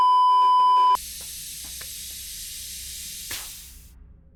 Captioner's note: beeeeeeeeeeeep; hydraulic hiss